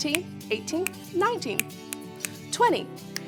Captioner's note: snapping